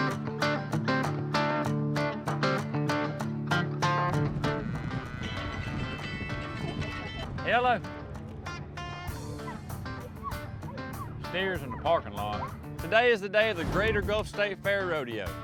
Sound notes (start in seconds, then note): 4.3 mooing; 5.7 phone ringing